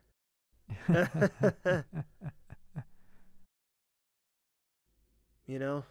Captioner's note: The Medjai and The Mage briefly laugh with dry tones before silence sets